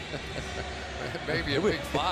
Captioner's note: laughter